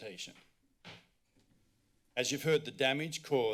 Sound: thump

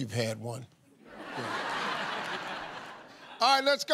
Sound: laughter

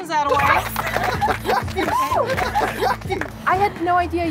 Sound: team cheers

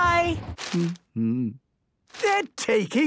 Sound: humming

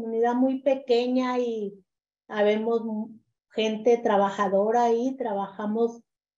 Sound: continues speaking in Spanish

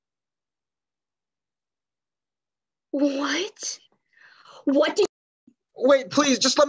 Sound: mute

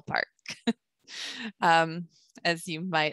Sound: chuckles

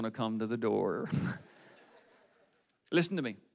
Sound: audience laughs

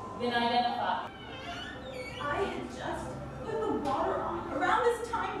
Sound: door squeaks

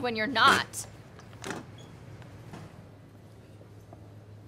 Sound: harsh chair noise

